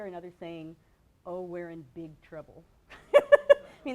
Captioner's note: laughs